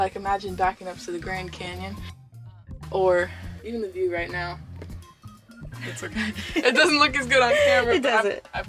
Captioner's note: laughs